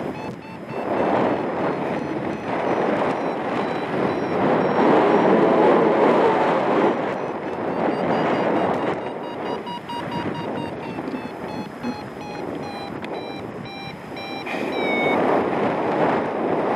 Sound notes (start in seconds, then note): 0.0 alarm accelerates; 0.1 strong wind gusts; 3.0 alarm slows; 3.0 strong wind gusts; 6.9 alarm accelerates; 7.4 wind whooshing; 11.8 alarm slows; 11.8 strong wind gusts